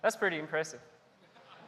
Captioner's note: laughter